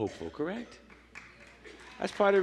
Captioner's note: applause